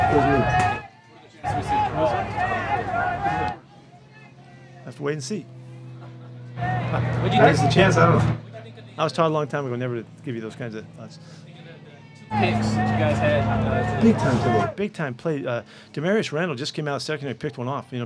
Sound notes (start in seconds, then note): 0.0 crowd chattering drowns out interviewer